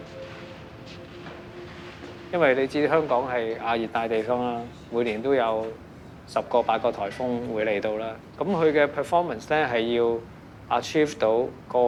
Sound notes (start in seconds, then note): 0.0 plastic tarp rustling; 2.7 Cantonese